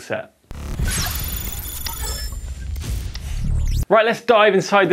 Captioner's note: lightning bolt crackles